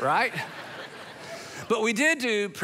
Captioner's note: congregation laughing